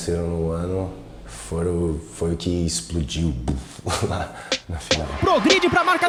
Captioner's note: poof